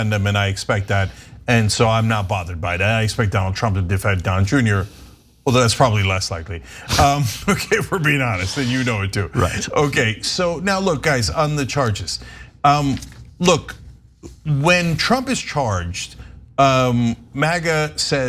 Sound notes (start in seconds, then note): 9.3 laugh